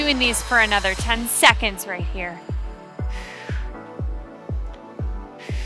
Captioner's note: exhales